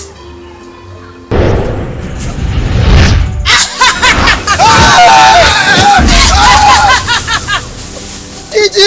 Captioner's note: shouting with fear